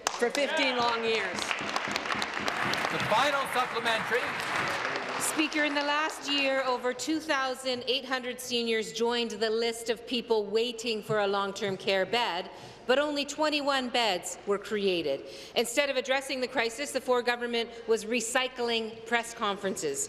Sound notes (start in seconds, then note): 5.3 applause